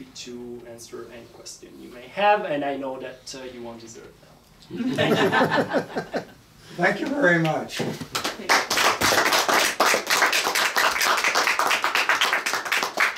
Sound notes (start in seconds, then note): 4.8 audience laughing; 8.2 audience applauding